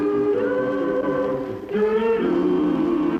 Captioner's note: humming